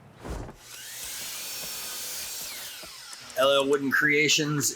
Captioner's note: machine whirring